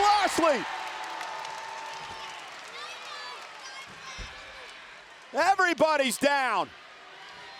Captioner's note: applause